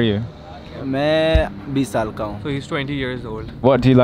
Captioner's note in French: Langue locale